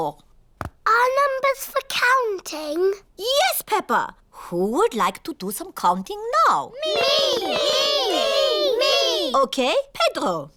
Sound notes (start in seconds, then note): none